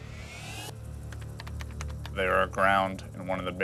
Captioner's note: keys typing